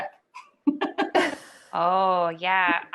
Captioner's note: laughter